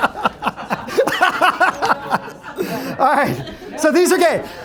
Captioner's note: laughter